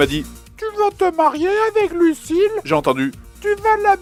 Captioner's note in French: voix de fausset